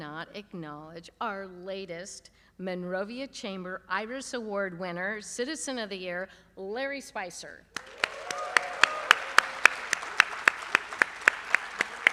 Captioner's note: applause